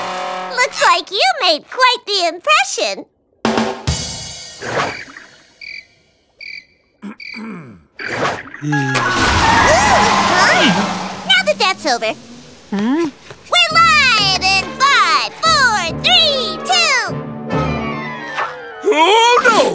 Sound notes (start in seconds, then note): 3.5 ba-dum-tss; 4.9 crickets; 7.0 clearing throat